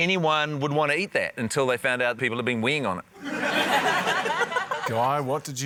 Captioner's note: laughter